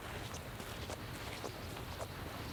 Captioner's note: none